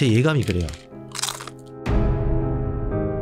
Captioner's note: Crunch